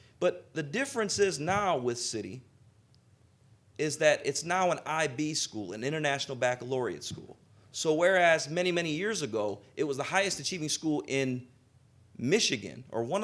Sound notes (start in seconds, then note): none